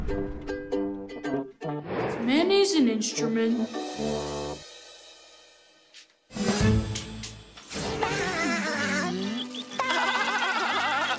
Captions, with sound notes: Is mayonnaise an instrument? [giggling] [giggling]